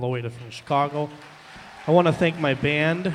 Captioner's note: applause, cheering